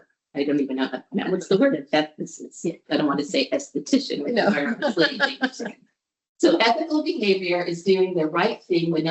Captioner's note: laughter